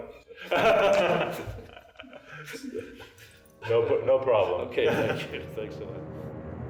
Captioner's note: laughter